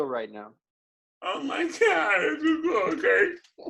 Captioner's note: giggles